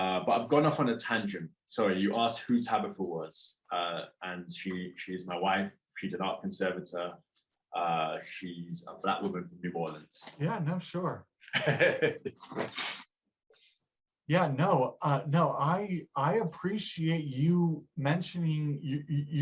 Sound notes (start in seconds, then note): 11.5 laughs